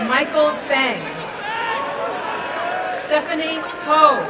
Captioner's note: applause and cheering